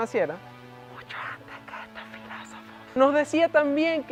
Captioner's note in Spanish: susurro